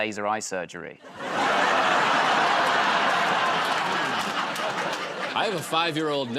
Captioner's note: laughter